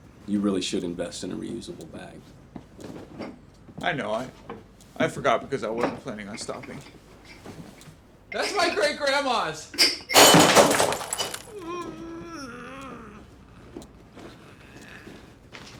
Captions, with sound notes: You really should invest in a reusable bag. I know I, I forgot because I wasn't planning on stopping. That's my great Grandma's. (loud smash) (crying)